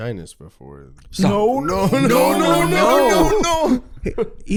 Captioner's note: all yelling "NO" repeatedly